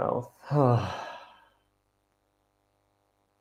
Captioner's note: exhales